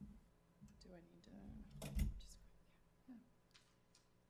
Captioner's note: speaks faintly